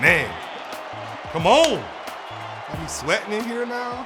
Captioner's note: claps